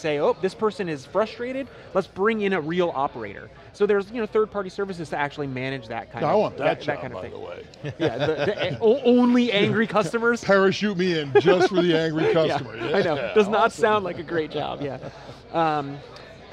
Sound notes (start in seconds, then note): 7.8 laughter